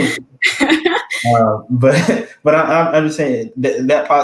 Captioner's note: laugh